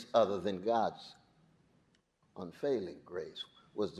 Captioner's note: none